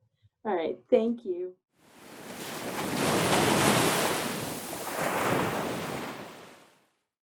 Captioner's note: sound of beach waves